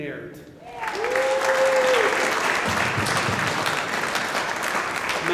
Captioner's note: audience applauding